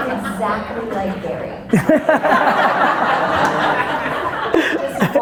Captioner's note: audience laughter